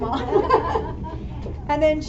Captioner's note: laughter